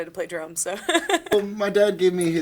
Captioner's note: laughing